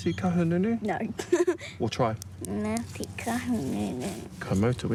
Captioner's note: laughs